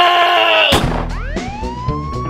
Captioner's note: gunshot